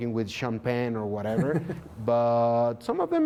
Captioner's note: laughter